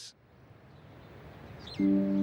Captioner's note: birds chirping; gentle music